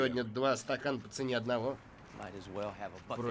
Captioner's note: metal rattles